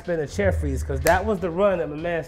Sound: smacks

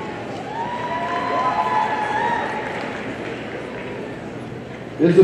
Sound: audience cheering

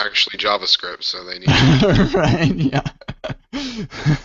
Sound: laughter

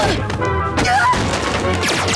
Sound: thudding

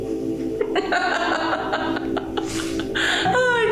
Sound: laughing

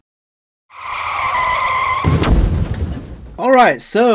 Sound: screeching; crash and explosion

